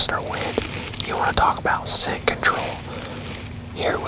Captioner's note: whispering